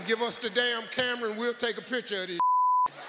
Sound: beep; audience laughing

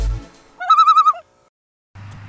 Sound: loon call

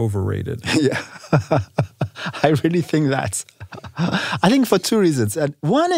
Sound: laugh

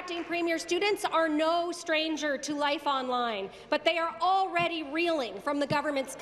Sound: applause

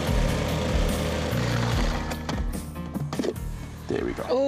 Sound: whirring; whirring stops

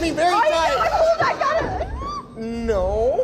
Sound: squeals

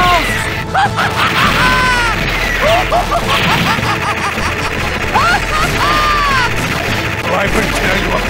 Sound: insane Laughter

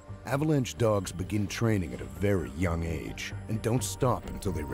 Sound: voiceover

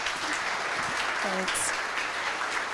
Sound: audience applause

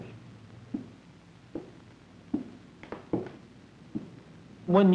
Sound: physician's footsteps

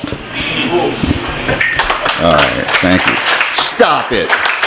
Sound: applause

